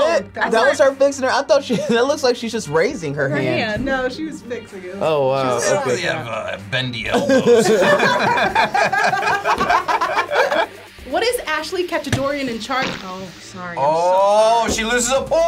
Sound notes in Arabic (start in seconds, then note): 7.1 الجميع يضحكون; 12.7 تضرط